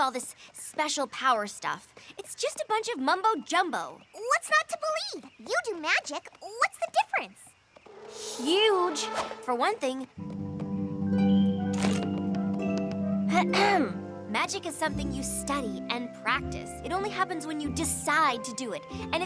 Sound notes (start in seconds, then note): 13.3 clears throat